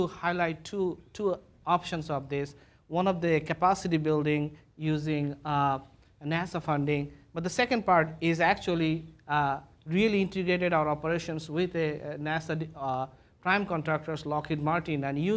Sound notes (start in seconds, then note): none